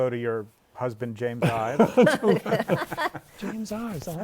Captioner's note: laughter